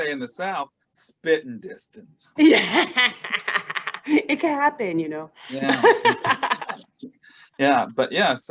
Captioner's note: laughs